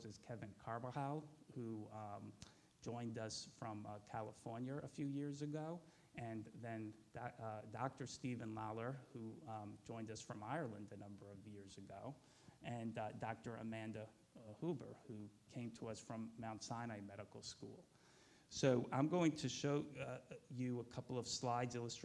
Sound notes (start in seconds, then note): none